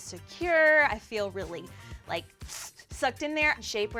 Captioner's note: sucks air in